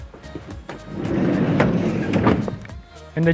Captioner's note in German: Autotüre fällt ins Schloss